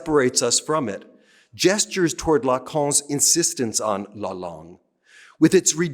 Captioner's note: speaking french